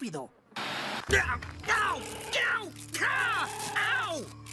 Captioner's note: Scott Screaming